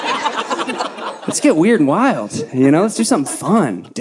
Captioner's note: audience laughing